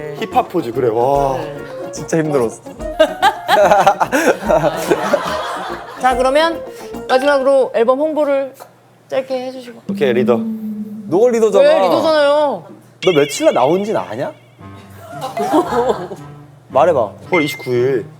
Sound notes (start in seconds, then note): 15.3 scoff